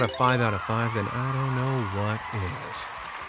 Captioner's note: crowd cheering and applause